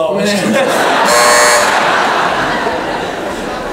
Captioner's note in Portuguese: campainha